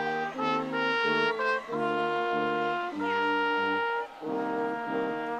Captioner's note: audience cheering